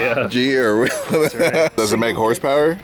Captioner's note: laughs